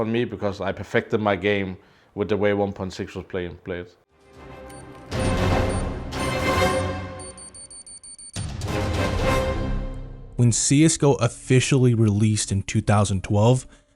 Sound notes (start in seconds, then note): 4.2 dramatic music; 5.3 bomb beeping